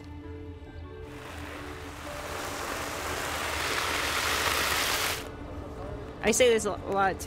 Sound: water sprays

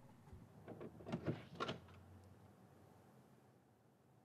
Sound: door rattling

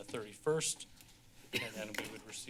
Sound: coughs

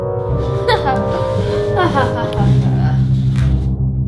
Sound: laughs

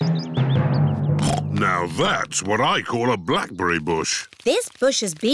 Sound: snorts

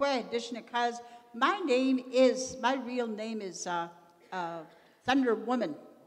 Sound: continues in Indigenous language; in English

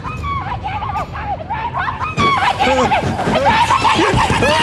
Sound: screaming

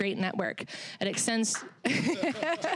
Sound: laughing; applause

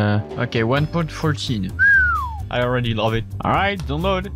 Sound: whistles

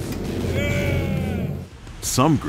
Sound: worker groans

